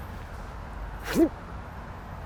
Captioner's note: whoosh